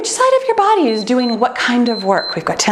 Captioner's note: timer beeps